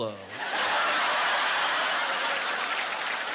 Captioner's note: laughter